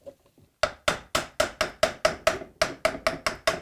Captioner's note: hammering